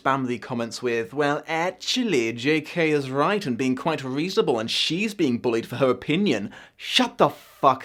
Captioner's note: mocking voice